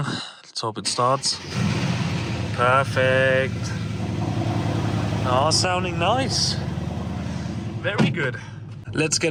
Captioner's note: engine revving